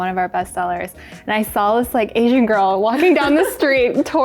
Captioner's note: everyone laughs